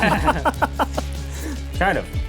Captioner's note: laughter